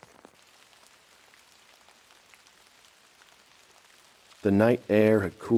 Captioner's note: heavy rain